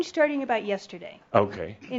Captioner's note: some chuckles